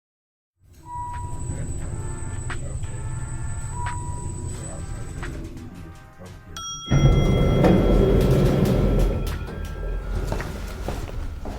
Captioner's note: busy lobby; elevator door opens